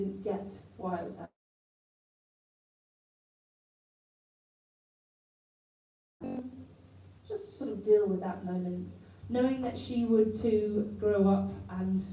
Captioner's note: interference